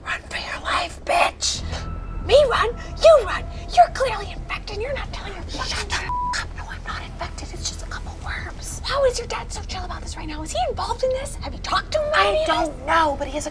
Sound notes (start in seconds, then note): 6.1 beep